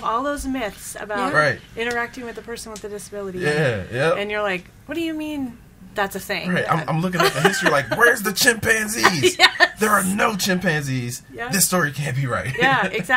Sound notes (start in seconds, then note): 7.2 laughs